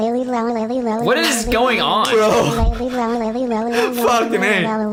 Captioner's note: laughs